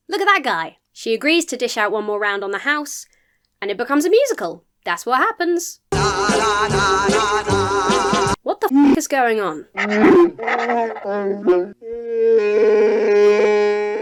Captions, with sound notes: Look at that guy! She agrees to dish out one more round on the house and it becomes a musical. That's what happens. (bartender singing energetically) What the (wookiee howls) is going on? (wookiee howls)